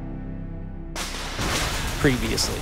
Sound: thunder strikes

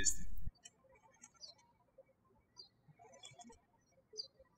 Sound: birds chirping

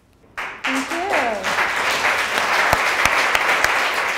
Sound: applause

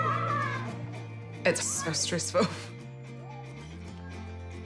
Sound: chuckles

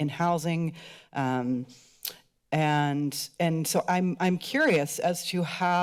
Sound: click tongue

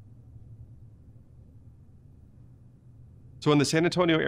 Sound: silence

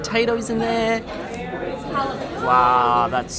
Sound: slurping

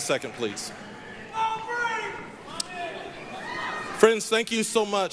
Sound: yelling

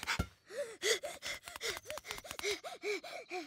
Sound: panting heavily

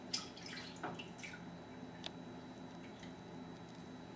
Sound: liquid sloshes

